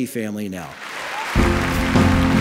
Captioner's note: applause